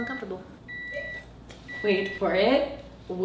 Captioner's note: beeps